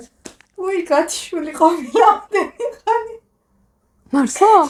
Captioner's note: giggle